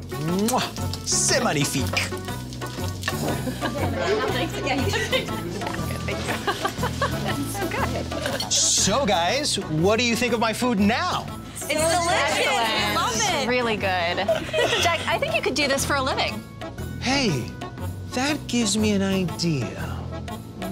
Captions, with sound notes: Mwah! C'est magnifique! [CHATTER AND LAUGHTER] So guys, what do you think of my food now? It's delicious! We love it! Really good. Jack, I think you could do this for a living. Hey, that gives me an idea.